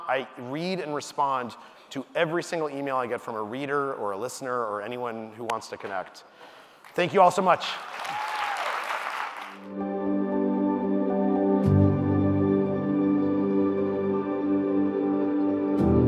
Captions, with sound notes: I read and respond to every single email I get from a reader or a listener or anyone who wants to connect. Thank you all so much. (audience applauding) (light music)